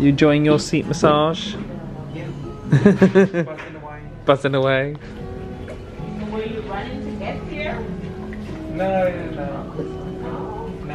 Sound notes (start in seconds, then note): 2.7 laughs